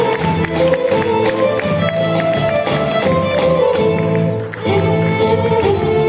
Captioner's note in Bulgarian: аплодисменти